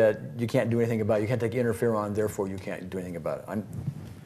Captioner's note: none